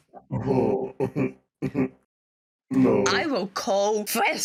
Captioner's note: snobby french-like laugh